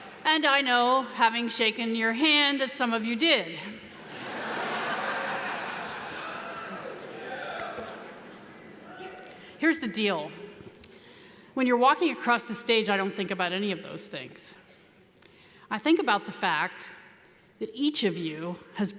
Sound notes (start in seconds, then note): 4.0 audience laughs